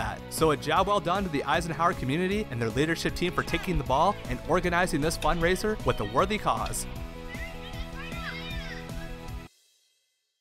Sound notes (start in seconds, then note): 7.2 children yelling